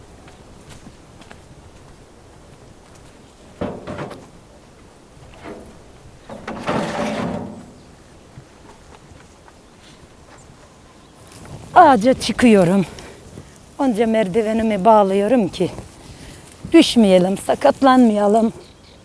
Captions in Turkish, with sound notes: (Adım sesleri) (Plastik kasa ses çıkartıyor) Ağaca çıkıyorum. Önce merdivenimi bağlıyorum ki düşmeyelim, sakatlanmayalım.